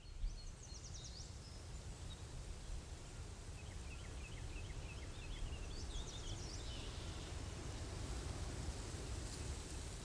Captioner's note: quiet sound of rustling trees and leaves